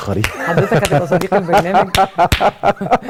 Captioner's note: claps!